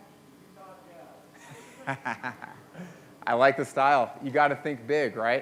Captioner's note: laughs